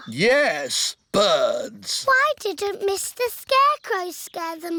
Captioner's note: none